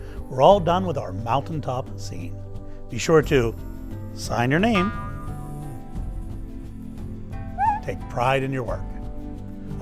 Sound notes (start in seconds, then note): 0.0 gentle music; 4.8 bubble boings